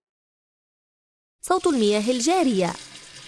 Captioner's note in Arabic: صوت المياه الجارية